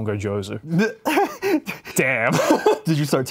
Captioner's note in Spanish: ríe